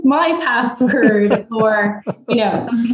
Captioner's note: laughs